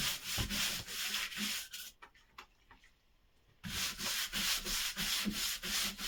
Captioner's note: excessive brushing